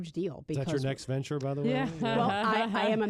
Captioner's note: laughter